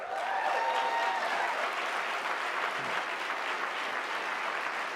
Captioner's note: cheering